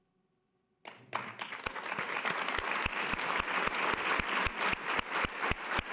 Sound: audience applause

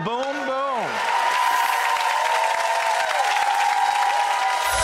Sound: applause

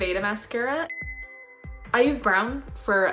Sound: chimes

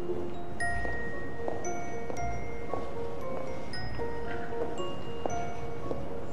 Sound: mysterious music continues; footsteps

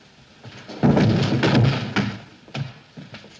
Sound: thud

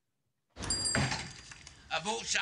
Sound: bell ringing

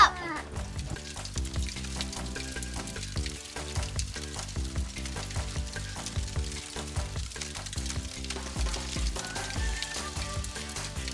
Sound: crackling of fire

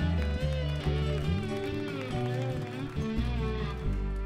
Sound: crowd applauds

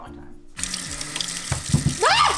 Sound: water running; screaming

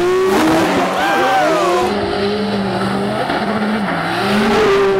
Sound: crowd cheering

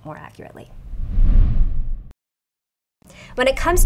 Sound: graphics sliding

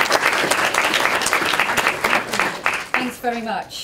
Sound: applause

